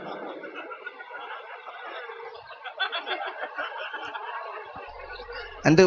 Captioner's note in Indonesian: tertawa